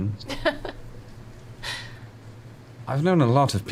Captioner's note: laughs